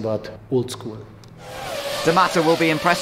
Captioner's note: engine